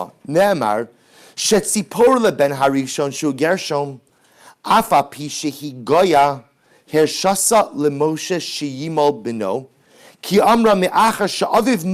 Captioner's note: Hebrew